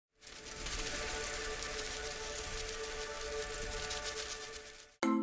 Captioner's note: butterflies Fluttering